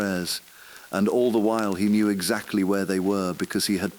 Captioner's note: exhale